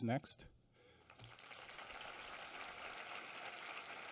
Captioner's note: applause